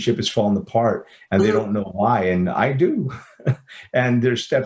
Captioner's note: chuckles